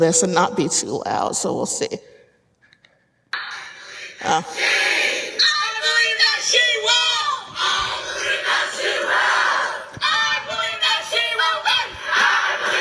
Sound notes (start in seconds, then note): 3.4 crowd; 3.6 crowd shouting